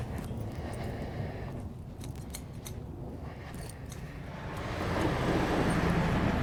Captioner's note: traffic noise